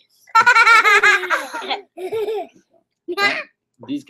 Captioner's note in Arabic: يضحك